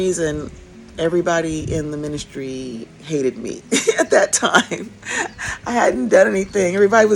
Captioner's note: laughs